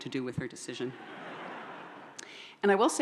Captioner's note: audience laughs